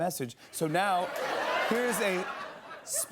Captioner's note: laughter